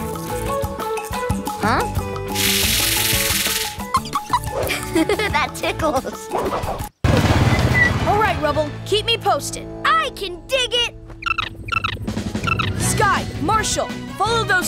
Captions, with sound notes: Huh? [giggling] That tickles. Alright, Rubble, keep me posted. I can dig it. [chirping] Skye, Marshall, follow those two.